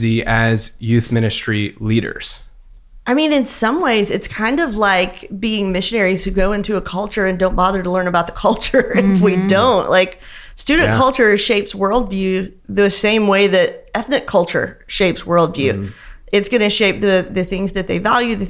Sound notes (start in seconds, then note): 8.7 laughs